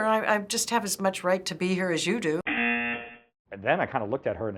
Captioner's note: buzzer